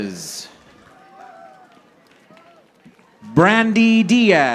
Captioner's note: audience applauding